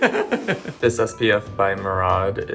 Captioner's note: laughing